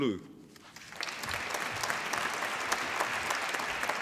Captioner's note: applause